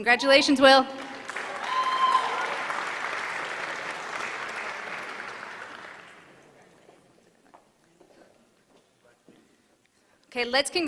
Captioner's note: applause